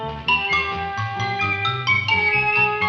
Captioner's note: none